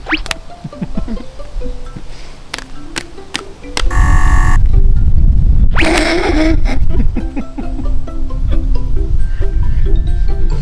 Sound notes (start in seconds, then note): 0.6 giggling; 3.9 buzzer; 5.8 laughing